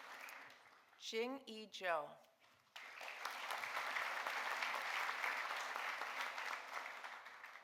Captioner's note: audience applauding